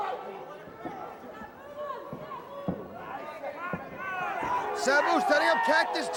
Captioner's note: crowd chatter